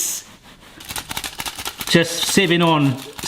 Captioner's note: sieve clinking